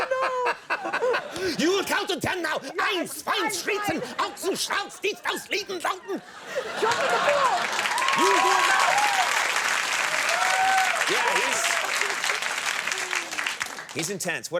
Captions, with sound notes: You will count to 10 now. (Conan shouting in German) (audience clapping) Yeah, he's intense.